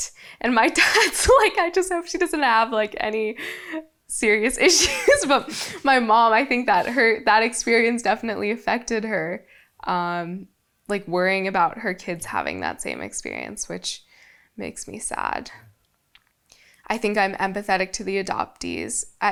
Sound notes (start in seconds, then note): 4.7 laughs